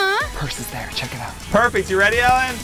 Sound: whispering

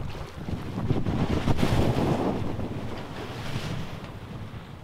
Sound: wind howling

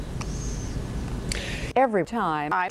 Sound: woman takes a breath

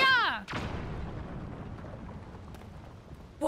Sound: explosion

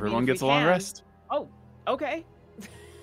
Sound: laughs

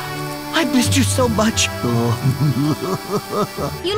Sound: laughing

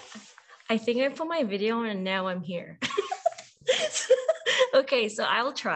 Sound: laughs

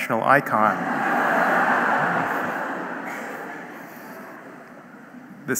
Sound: audience laughing

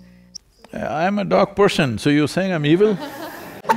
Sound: laughter

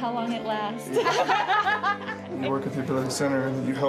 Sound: laughing

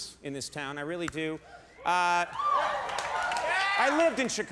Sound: audience cheers

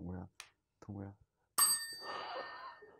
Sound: chime

